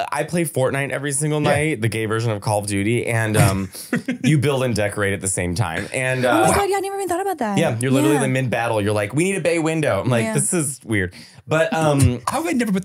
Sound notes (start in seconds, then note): 5.7 laughing